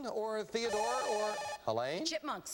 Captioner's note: buzzer